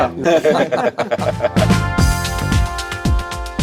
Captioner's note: group laughs